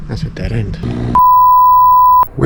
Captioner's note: high-pitched beep